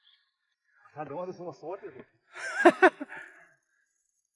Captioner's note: ha ha ha ha